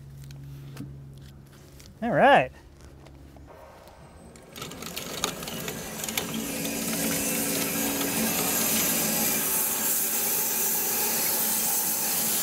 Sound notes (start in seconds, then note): 4.6 motor rumbling; 9.3 saw blade humming